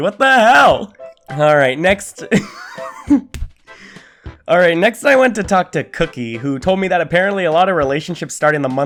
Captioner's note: laughter